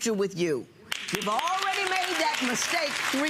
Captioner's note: audience clapping